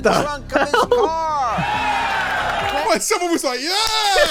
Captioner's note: audience cheering